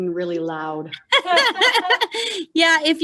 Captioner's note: laughing